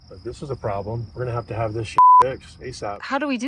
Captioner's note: beep